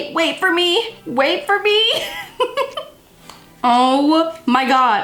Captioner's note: laughs